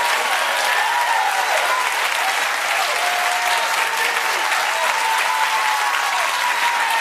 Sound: applause

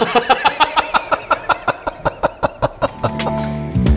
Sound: laughing

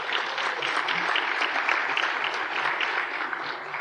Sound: applause

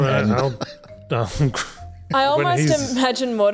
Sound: chuckles

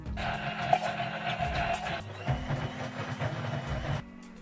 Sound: blender whirs

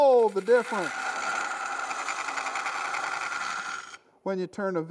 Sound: wood lathe chattering

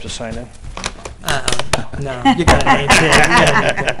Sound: people laughing

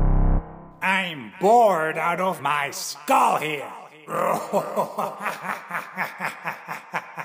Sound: modest evil laughter

